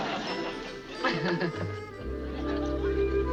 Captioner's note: Ann giggling